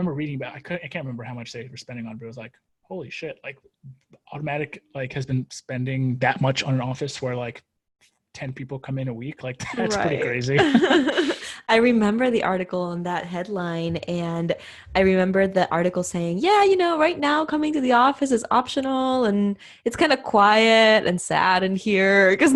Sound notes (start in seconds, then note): 9.6 laughs